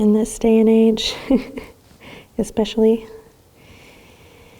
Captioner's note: laughs